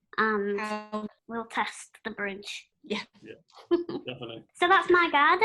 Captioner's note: laughter